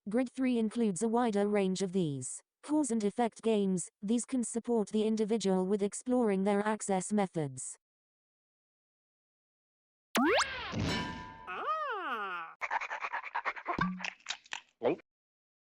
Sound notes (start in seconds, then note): 10.7 falling sound, clang sound; 12.6 dog makes sound of interest, panting, and then eating noises and gulp